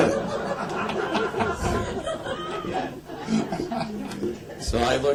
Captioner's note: laughter